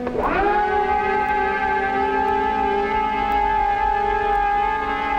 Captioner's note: engine whirring loudly